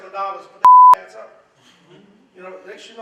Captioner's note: beeps